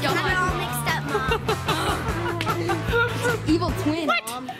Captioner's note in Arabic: يضحك